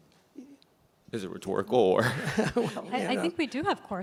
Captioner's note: laughs